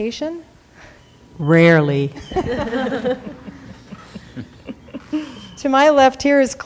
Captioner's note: laughing